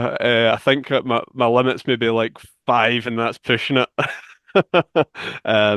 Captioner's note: laughs